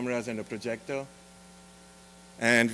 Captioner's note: none